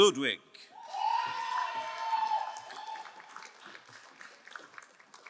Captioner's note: crowd cheering and applauding